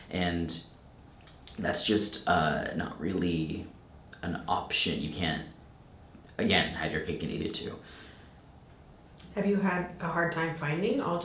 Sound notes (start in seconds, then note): none